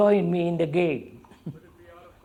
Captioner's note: laughs